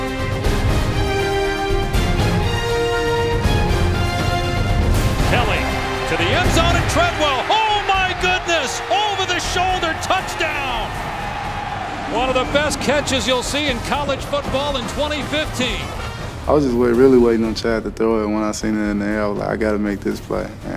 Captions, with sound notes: facing a big play offense like the Auburn Tigers means you're never out of the woods. - [Voiceover] Third and five, back to throw. Deep down the middle, man wide open. Caught at the fifteen, in the end zone. Touchdown, that was a piece of cake. - [Voiceover] You talked about explosive plays, they 147 yards on third and four. - Marie's gotta calm down, bro. Good.